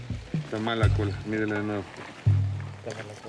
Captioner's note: Spanish language